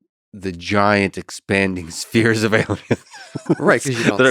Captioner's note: laughs